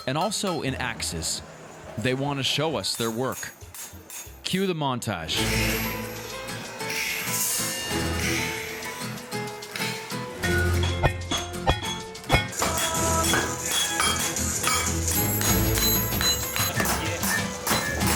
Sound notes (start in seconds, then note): 5.8 ominous music; 10.7 clattering